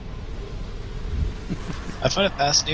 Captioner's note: laughs